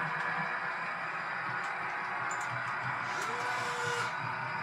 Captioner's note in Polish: Aplauz